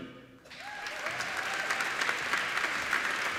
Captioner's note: applauding